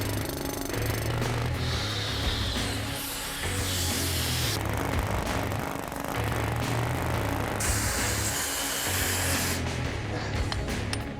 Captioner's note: drilling sound